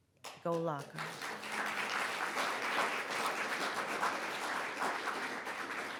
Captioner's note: audience applauds